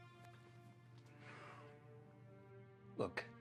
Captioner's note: John sighs